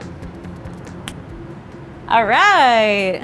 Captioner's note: snaps